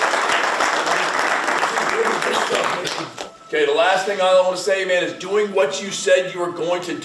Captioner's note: claps